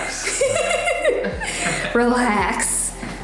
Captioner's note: laughing